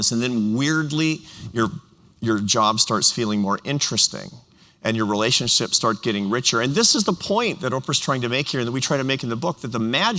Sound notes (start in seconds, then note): none